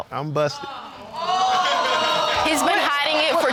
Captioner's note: audience gasping